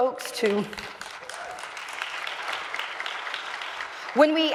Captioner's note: audience applauds